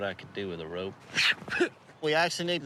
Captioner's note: imitating rope cracking